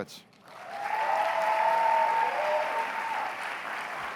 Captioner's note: cheers and applause